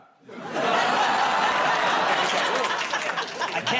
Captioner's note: audience groans